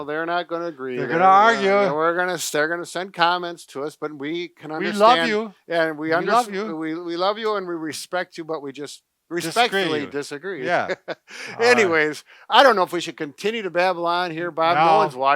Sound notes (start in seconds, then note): 10.6 laughing